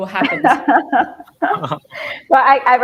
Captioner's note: laughter